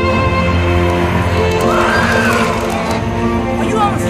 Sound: monsters screeching

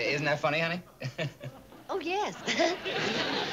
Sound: laughs

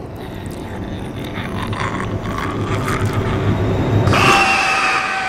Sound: raspy growling; demonic screech

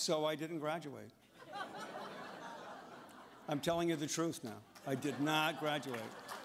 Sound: laughter

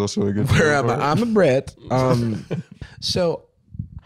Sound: Borat voice

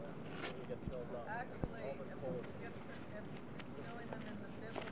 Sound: chatter

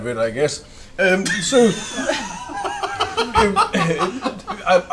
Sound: laughter

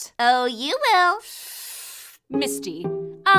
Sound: inhales

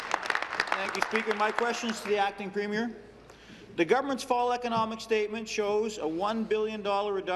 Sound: applause

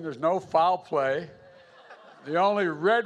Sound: laughter

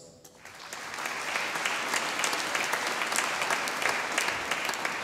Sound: audience applauding

